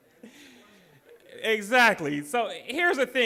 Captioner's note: laughing; audience chatter